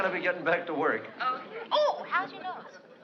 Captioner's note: on phone